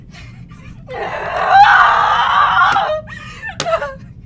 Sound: screams in frustration, slaps hands on the floor

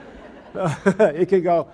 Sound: audience laughs

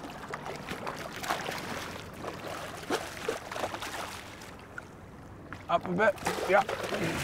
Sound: fish splashing

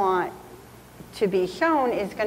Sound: none

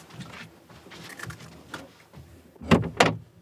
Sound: Crunch

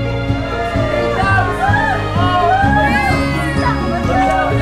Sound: cheering; baby crying

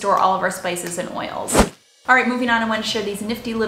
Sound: air whooshing

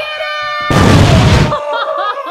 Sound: explosion

